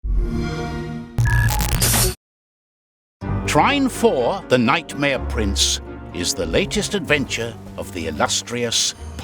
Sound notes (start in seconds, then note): 1.2 electronic beeping and static; 1.2 xbox sound